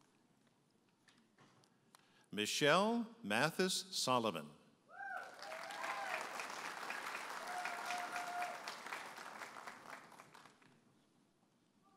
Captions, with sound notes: Michelle Mathys Solomon. (audience applauding and cheering)